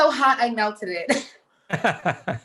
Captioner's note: laughing